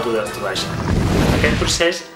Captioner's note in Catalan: explosió